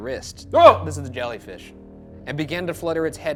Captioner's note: yelps